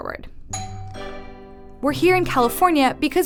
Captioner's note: doorbell rings